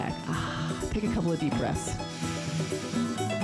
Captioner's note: sighs